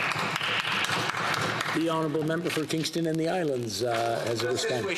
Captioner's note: some Applause